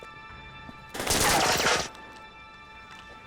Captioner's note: gunfire